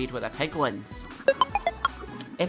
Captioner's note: success Jingle